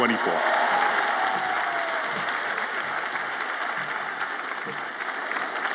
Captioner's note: audience applauds and cheers